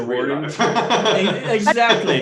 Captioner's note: laughing